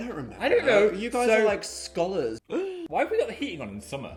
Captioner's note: gasps